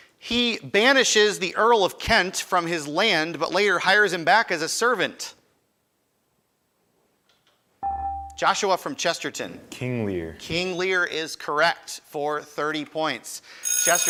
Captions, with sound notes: He banishes the Earl of Kent from his land but later hires him back as a servant. (buzzer chimes) Joshua from Chesterton. >> King Lear. >> King Lear is correct. For 30 points.